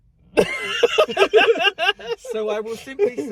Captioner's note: laughing